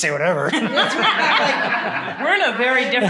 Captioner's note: laughter